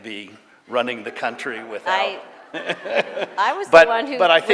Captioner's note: laughter